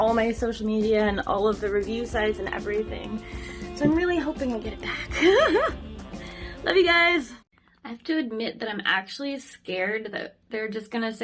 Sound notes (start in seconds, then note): 5.0 laughs